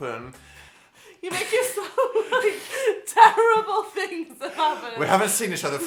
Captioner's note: laughs